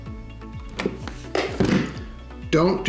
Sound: thumping

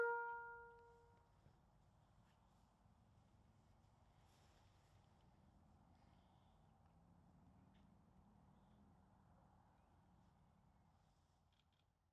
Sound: silence

